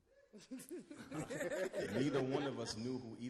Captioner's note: all laugh